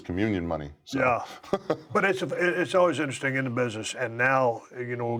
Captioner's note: laugh